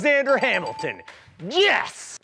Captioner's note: dinging noise